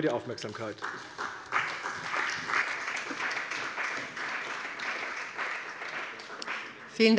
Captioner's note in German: Beifall bei der CDU und dem BÜNDNIS 90/DIE GRÜNEN